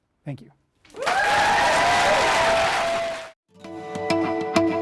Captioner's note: applause